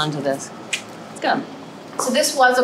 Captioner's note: tongue clicks